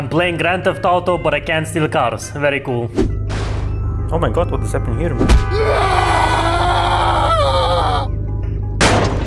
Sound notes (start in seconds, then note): 5.4 another shitty bad scream